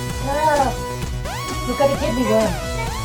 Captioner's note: yelling